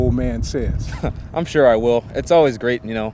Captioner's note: laughs